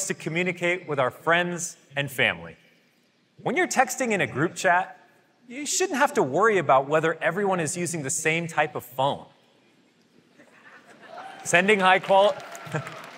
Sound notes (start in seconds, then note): 10.4 laughter